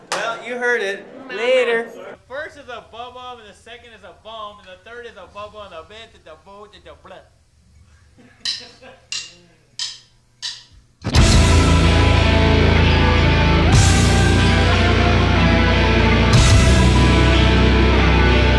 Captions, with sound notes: - Well, you heard it, later. First is a bub-ub and the second is a bum and the third is a bub-ub And the third is a bubba and a bam ba da di da blah (laughing) (rock music)